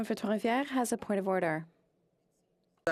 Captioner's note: speaking French